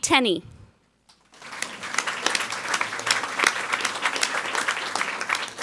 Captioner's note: people clapping